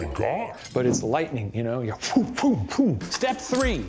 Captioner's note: vocalizing speed